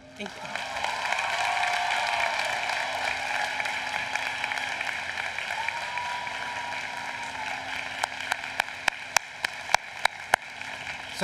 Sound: applause

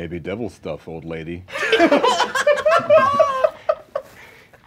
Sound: laughing

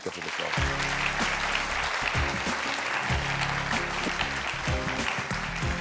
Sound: audience applauds; upbeat music

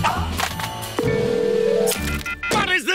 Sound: ringing

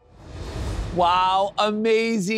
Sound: graphics whoosh

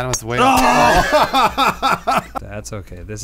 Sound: laughing

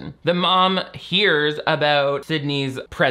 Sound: none

